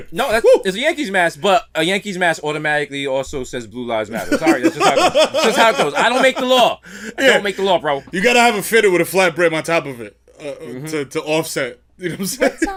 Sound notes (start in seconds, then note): 4.2 laughs